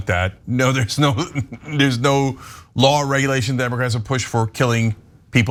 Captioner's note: laugh